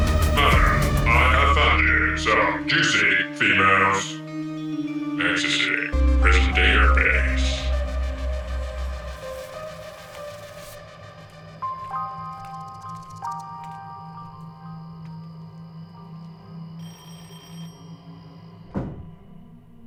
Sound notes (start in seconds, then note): 0.0 dramatic music; 4.2 dramatic music; 7.8 dramatic music; 10.7 insects chirping; 13.7 dramatic music; 16.8 door bell ringing